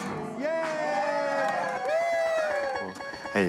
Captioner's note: cheering and applause